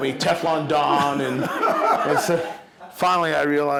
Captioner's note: laughing